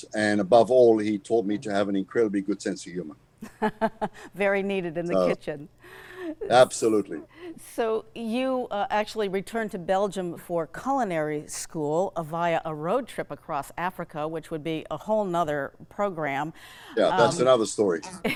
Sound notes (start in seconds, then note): 5.1 laughs